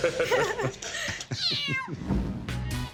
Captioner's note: laughter; cat meows